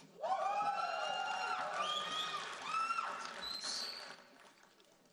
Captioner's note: audience cheering and applauding